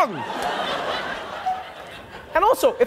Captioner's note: audience laughing